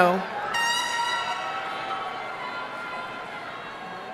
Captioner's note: horn honking